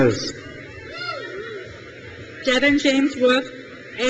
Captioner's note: crowd cheers